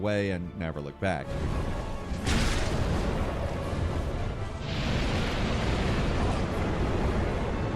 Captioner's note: suspenseful music; fire roars